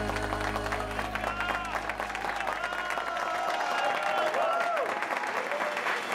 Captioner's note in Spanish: Aplausos